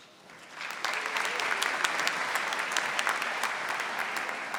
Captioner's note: audience applauding